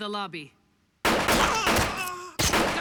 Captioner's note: gunshots; groans